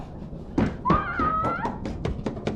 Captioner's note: footsteps on stairs; Sarah screams